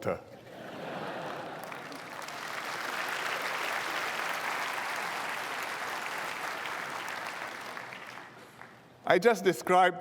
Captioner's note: laughter and applause